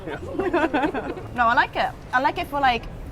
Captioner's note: laughs